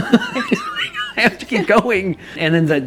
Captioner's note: laughs